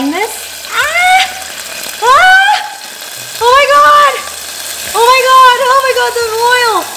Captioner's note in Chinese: 尖叫